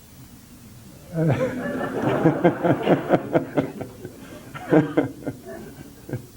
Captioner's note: delayed general laughter